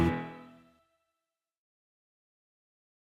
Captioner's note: music stops